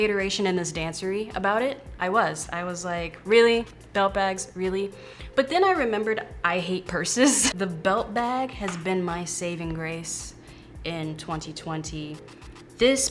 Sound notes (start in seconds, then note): 7.2 laughing